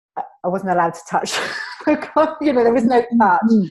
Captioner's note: laughs